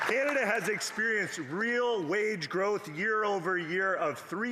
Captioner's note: applause